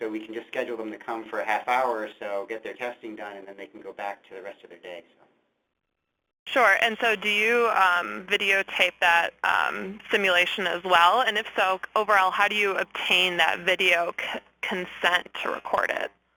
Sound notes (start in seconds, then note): 6.8 voiceover